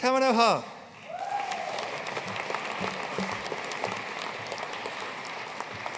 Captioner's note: audience cheering and applauding